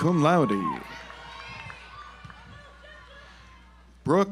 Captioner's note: audience applauds